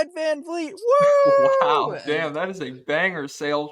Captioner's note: laughs